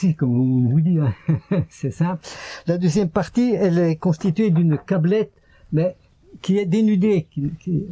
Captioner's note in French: rires